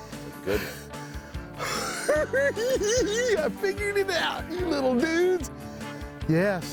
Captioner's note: giggling